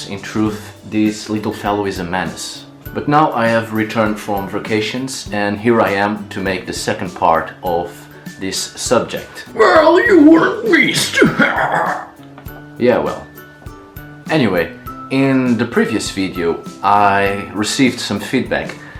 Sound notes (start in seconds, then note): 9.6 huehuerrrr